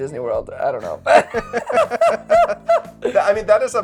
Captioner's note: both laughing